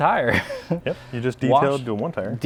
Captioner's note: laughs